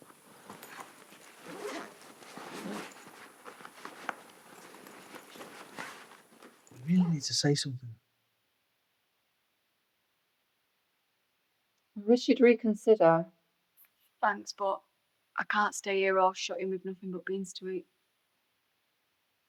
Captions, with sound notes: (bag zipping) - We really need to say something. I wish you'd reconsider. - Thanks, but I can't stay here all shut-in with nothing but beans to eat.